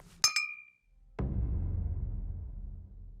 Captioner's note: clinking